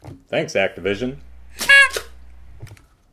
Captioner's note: tweet